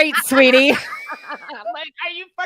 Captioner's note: laughs